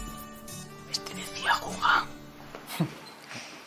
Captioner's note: whispering